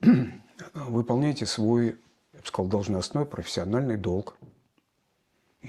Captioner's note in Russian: откашливается